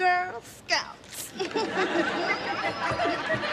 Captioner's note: chuckling